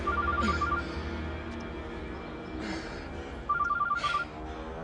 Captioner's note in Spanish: Suena el celular